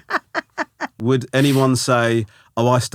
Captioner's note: laughing